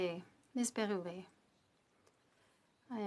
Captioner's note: speaking French